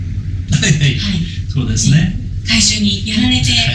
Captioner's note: laughs